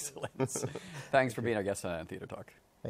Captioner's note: chuckles